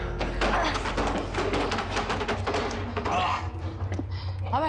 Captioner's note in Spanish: Ruido de objetos al caer